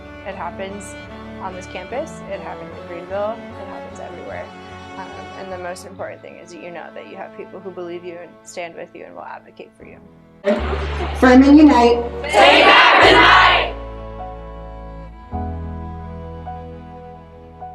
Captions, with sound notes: It happens on this campus, it happens in Greenville, it happens everywhere. The most important thing is that you know that you have people who believe you and stand with you and will advocate for you. [cheering] Furman unite! Take back the night!